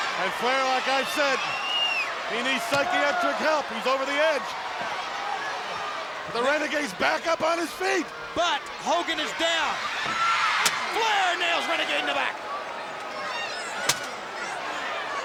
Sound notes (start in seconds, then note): 10.6 chair thudding; 13.8 chair thudding